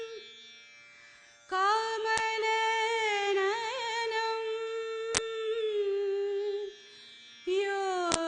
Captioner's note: none